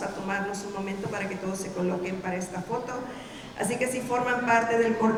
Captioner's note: speaking in Spanish